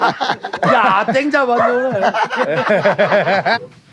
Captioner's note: speaking Korean; laughing